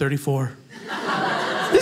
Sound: audience laughing

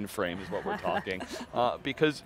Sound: laughing

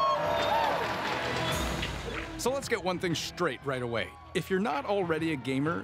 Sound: cheers and Applause

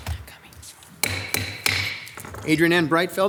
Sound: gavel banging

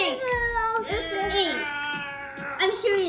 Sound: chattering

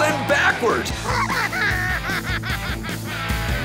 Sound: laughter

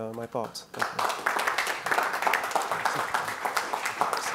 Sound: audience clapping

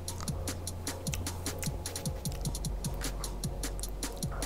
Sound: lips smack

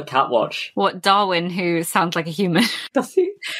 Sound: laughs

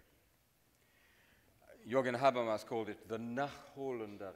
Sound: speaks in foreign language

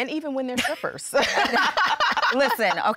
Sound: laughter

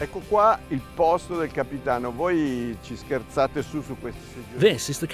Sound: speaking in foreign language

